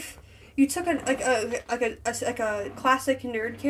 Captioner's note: stutter